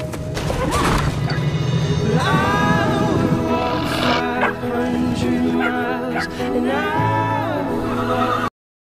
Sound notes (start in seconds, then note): 2.6 puppy barks; 2.9 wolf Growls